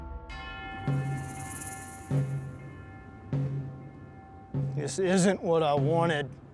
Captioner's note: bells